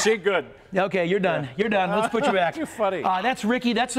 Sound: laughter

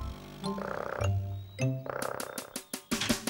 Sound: loud Gnawing

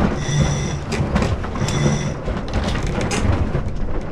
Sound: metal scraping

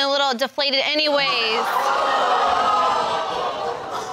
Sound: crowd crinjing

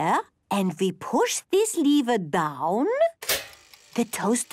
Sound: clicks

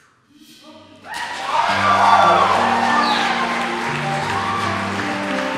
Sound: applause

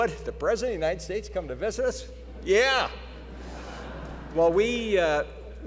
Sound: laughter

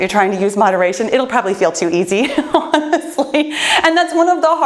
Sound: chuckles

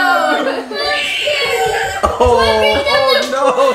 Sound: screaming

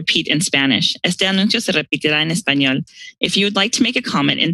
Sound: speaks in foreign language

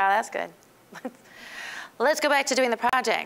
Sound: chuckling

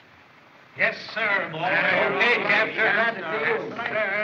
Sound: chattering

